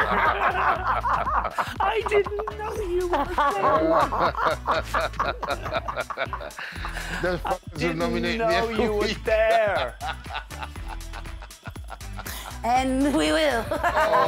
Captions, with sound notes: I didn't know you were there. [Laughing] ‘Those f*****s will nominate me every week’ [Laughing] And we will!